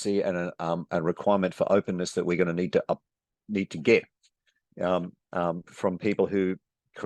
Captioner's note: none